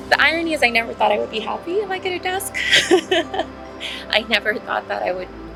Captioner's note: laughs